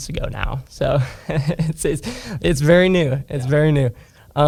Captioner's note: laughs